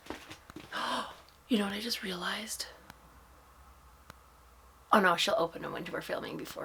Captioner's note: gasp